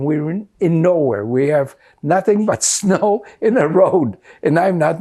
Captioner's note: laughing